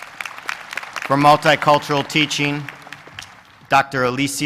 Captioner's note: applause